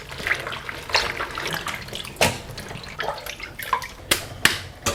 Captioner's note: water running